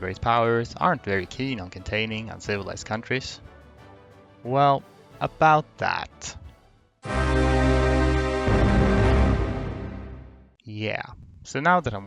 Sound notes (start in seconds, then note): 7.0 scary war declaration sound